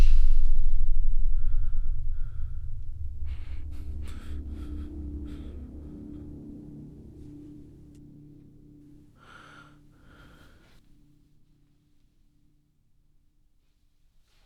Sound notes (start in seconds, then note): 0.6 ominous music; 5.2 man breathing